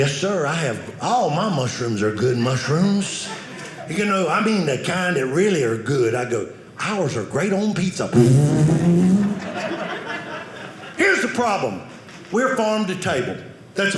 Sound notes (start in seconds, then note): 8.2 driving sound